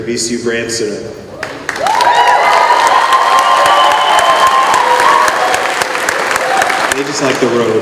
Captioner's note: cheering